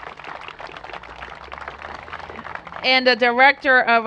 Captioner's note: applause